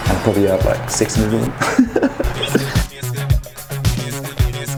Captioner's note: laughter